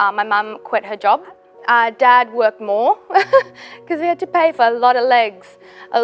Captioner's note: chuckles